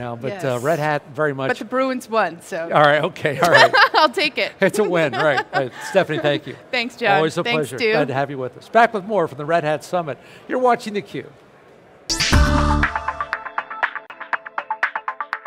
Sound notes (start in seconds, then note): 4.8 laughs; 12.1 electronic music